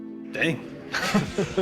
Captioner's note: laughter